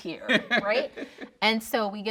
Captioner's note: laughing